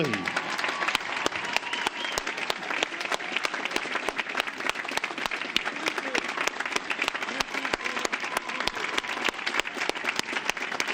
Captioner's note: applause